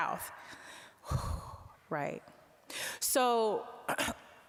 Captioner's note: exhaling